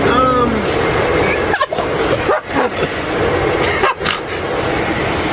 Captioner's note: men laughing